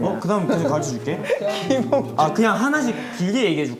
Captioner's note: laughing